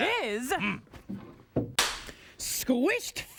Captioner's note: cracks pointer